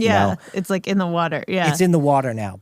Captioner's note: laughs